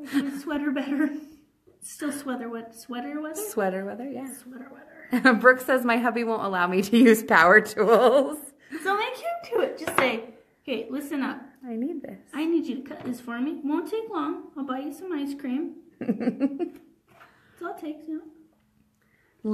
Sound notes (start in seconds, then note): 0.0 laughs; 8.6 laughs; 16.0 chuckles